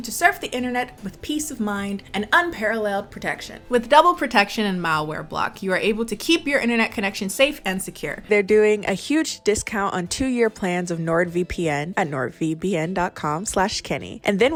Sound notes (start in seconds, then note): none